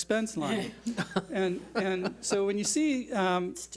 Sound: board laughs

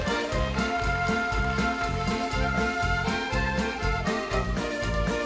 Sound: audience clapping

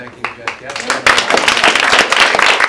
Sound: applause

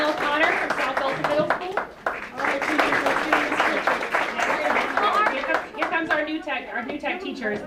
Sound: applause

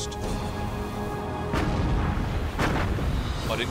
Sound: explosions

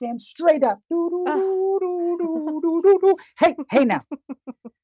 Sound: humming

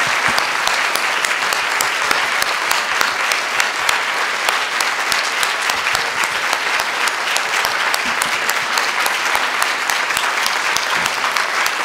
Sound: applause

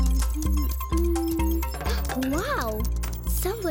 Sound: Noah gasps

